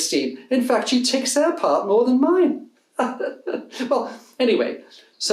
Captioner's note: laughs